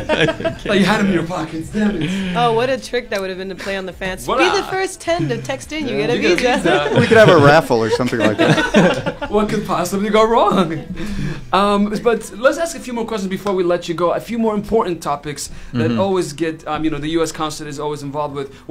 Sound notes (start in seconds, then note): 6.4 laughter